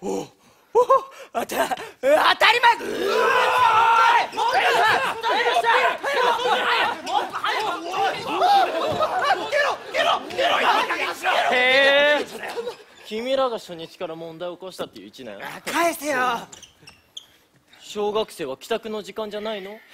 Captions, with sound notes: Of... of cou— (everyone panicking) Wow... Are you the first-years that stirred up trouble on the first day? Give it back. Isn’t it time for elementary schoolers to go home?